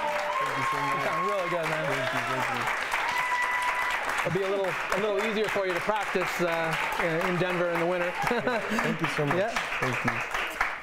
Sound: cheers & applause

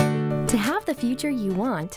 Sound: voiceover

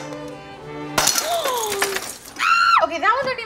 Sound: glass shattering; waitress screaming

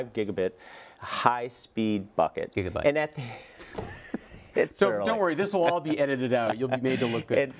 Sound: laughter

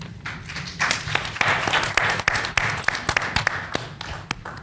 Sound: panel applauds

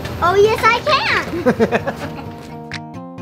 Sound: laughs

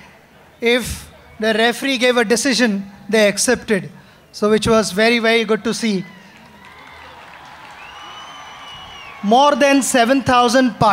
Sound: applause

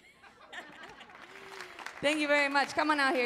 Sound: all laughing

